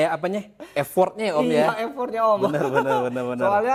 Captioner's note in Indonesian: tertawa